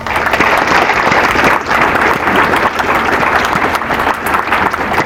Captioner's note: applause